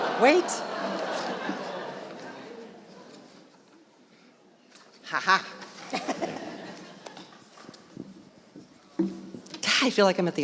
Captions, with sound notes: Wait. (audience laughing) Ha ha. (laughing) I feel like I'm at